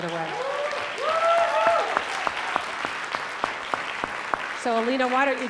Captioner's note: audience clapping; audience cheering